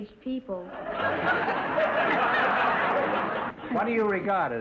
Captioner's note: audience laughter